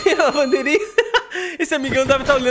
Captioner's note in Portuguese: risos